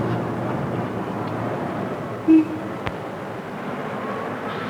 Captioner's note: street traffic